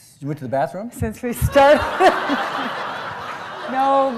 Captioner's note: laughs